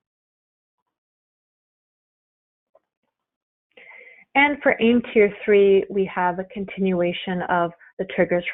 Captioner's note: silence